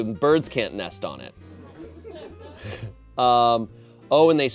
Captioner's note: audience laughing